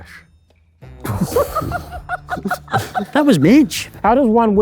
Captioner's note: group laughing